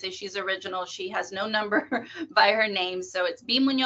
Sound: laughs

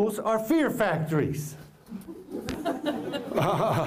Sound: laughter

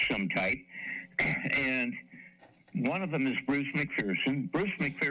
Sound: clears throat

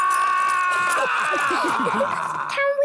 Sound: all laughing

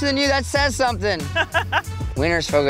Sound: laughs

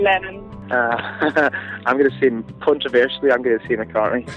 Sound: chuckles

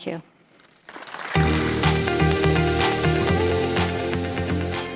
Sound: audience applauding; upbeat music

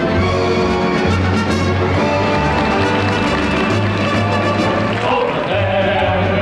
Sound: audience applauding

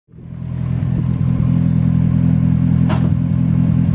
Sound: car engine roaring

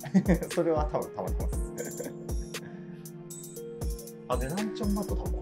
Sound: laughs

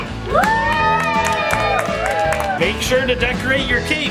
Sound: cheering

